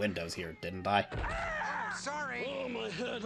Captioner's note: Fozzie shrieks in agony